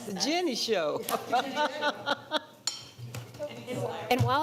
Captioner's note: laughing; laughs